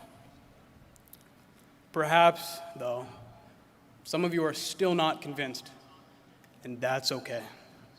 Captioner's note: none